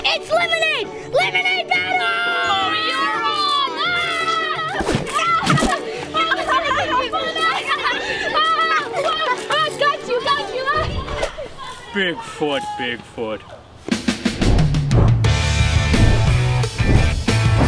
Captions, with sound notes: - It's lemonade! Lemonade battle! (yells) - Oh, you're on! (screaming and laughing) - I got you, I got you! (laughs) - Bigfoot, Bigfoot... (upbeat rock music)